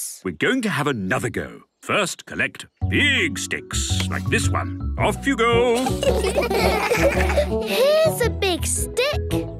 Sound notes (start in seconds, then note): 5.7 laughter